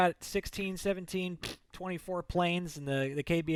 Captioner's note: blows raspberry